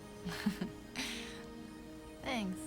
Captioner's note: Catherine laughs